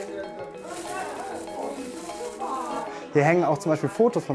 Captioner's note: Stimmengewirr